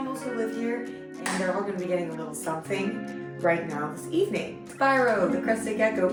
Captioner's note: clap